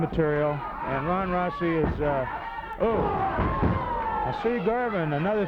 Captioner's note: wrestlers grunting